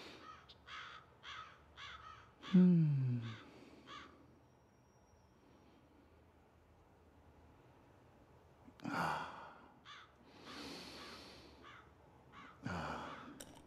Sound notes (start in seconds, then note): 0.0 crows cawing; 2.4 Kwabena sighs